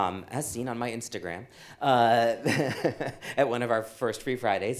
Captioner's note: laughs